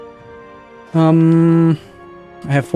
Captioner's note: melodic humming